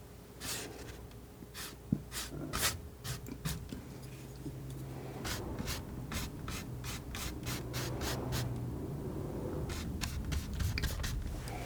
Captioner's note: scratching